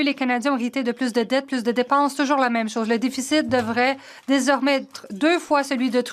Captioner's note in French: voix de l'interprète